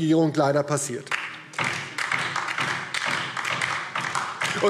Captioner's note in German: Beifall DIE LINKE